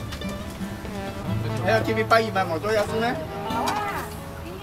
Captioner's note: Hakka conversation going on